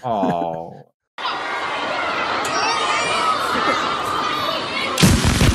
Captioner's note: audience cheering; sploooosh